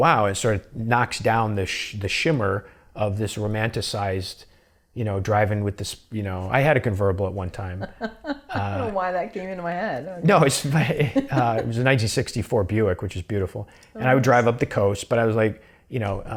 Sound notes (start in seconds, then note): 10.5 laughs